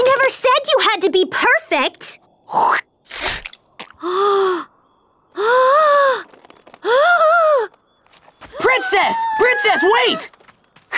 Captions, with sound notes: - I never said you had to be perfect! (spit splats) (Princess Bubblegum gasps) - Princess, Princess wait!